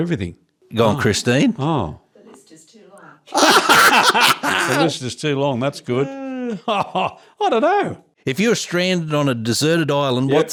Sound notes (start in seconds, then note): 3.2 laughing